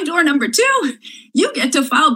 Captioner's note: laughs